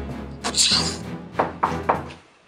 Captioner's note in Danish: Banken på døren